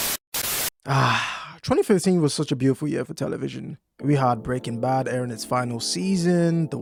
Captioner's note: sigh